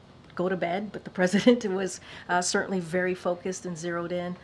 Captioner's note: laughs